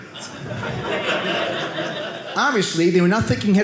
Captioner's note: audience laughing